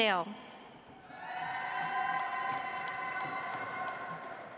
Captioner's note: audience applauds